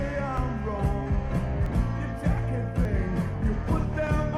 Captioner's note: none